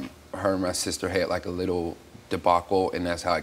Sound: none

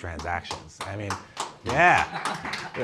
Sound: applause

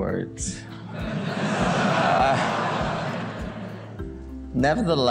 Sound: audience laughs

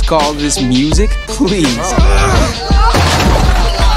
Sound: grunting

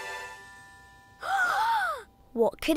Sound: musical flourish; gasping

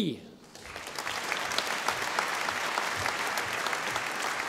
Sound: audience applauding

